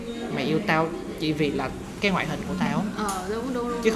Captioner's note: none